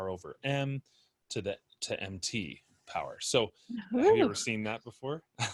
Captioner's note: laughter